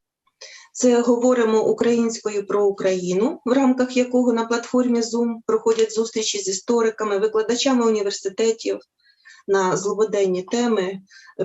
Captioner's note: foreign Language